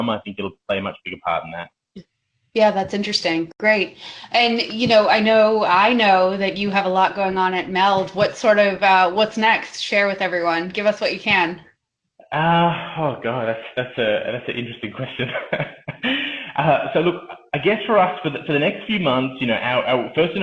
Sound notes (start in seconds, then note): 15.1 laughs